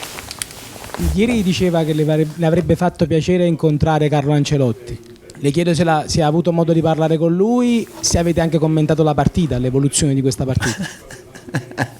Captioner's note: italian with no English translation